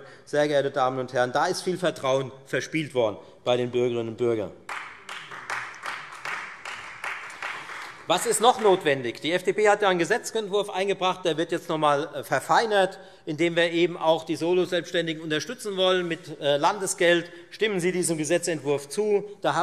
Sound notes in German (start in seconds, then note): 4.6 Beifall Freie Demokraten